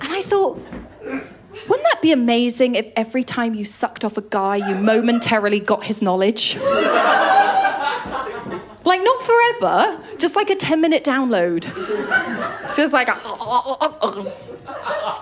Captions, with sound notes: And I thought, wouldn’t that be amazing if every time you sucked off a guy, you momentarily got his knowledge? [LAUGHTER] Like, not forever. Just like a ten minute download. Just like a [GARGLING SOUND].